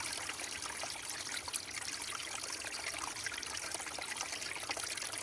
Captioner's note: water trickles